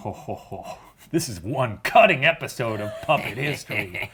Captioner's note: chuckles maniacally; chuckling mischievously